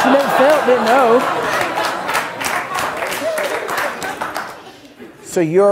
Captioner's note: audience clapping